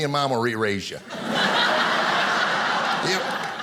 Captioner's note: audience laughing